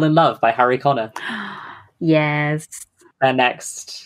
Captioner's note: gasps